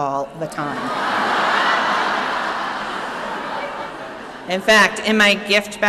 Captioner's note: laughing